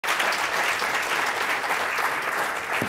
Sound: audience applauds

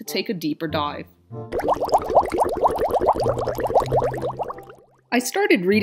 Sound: water bubbling

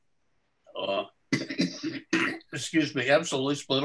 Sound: coughs

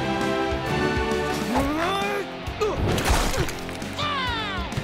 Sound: Nautai grunts; cheers

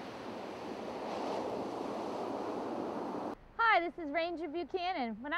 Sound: sound of ocean waves

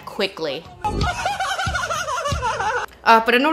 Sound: Green laughs annoyingly

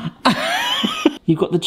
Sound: laughing

